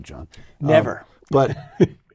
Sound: laugh

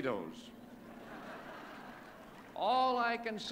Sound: laughter

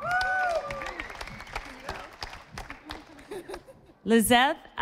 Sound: audience applauding

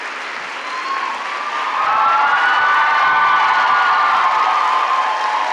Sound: applause and cheers

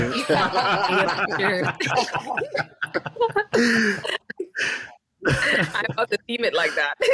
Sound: all laughing

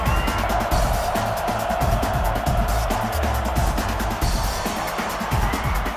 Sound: crowd cheering; crowd taunting; crowd cheering

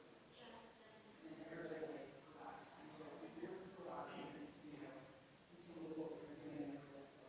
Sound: people chattering distantly continues

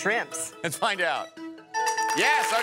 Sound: bell rings

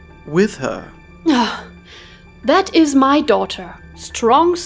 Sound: sigh

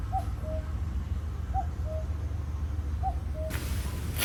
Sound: cuckoo... Cuckoo

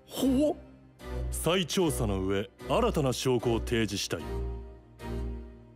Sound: Prosecutor continues speaking in Japanese; rhythmic pensive music

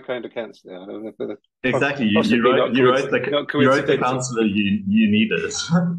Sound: laughs

